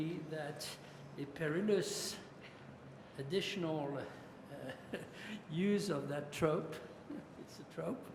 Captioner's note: french